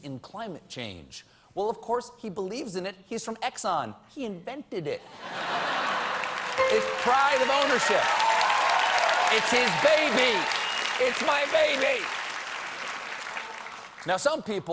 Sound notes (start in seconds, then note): 2.5 applause; 2.5 laughter